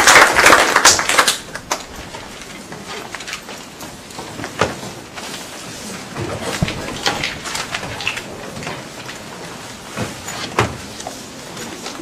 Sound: applause; background chatter

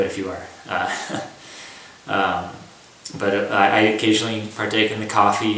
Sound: laughter

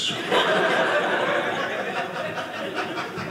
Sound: audience laughing

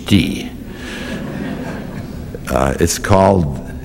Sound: laughter

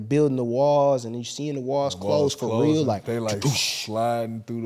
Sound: whooshing

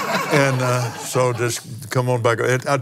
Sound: laughs

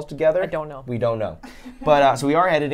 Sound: chuckles

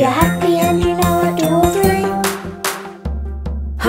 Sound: hands clapping; drum thumping

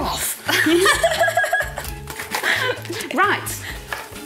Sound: both laughing

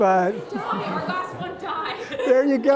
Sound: laughter

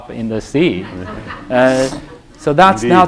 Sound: laughter

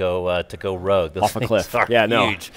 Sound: laughing

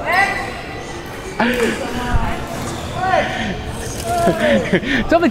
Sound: chuckles

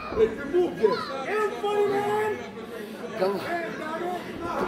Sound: crowd yelling

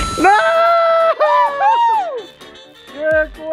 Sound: successful ding; screaming

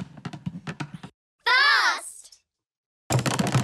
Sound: kids call out

